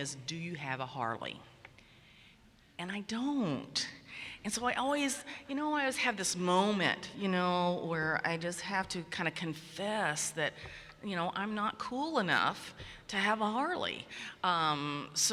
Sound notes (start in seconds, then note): none